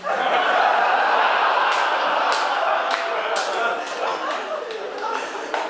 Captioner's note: audience laughing and clapping